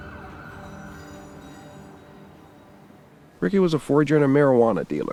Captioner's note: police siren sounds